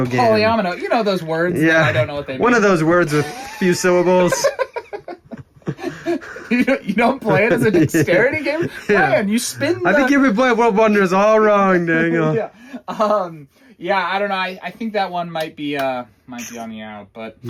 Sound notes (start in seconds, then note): 4.6 laughing